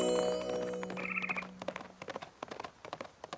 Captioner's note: squirrel chitters